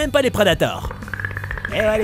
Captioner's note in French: Cliquetis du Predator